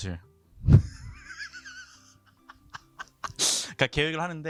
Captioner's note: laughter